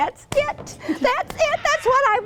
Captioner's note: laughs